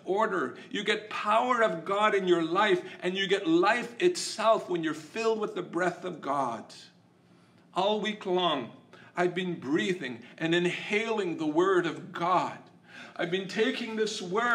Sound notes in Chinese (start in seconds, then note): 10.0 吸气